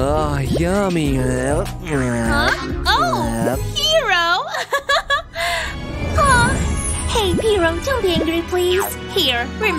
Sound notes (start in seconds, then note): 1.9 making happy sounds